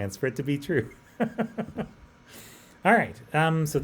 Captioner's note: laughs